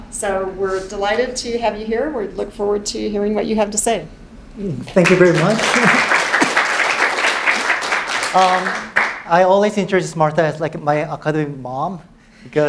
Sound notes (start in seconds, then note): 5.0 audience clapping